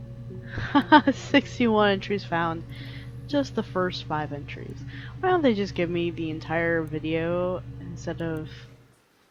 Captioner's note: laughs